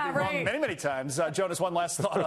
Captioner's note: laughter